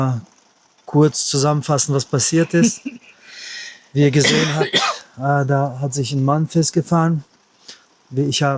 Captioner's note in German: husten